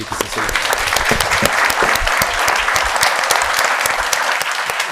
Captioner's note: audience applauds